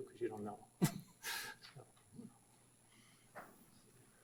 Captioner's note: laughs